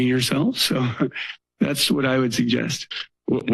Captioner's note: chuckles